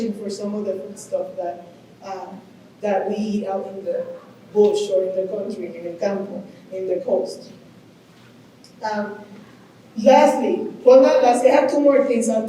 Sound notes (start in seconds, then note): 6.2 speaking Spanish